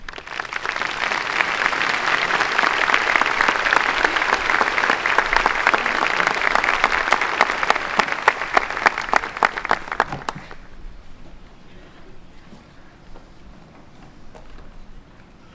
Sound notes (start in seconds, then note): 1.9 clapping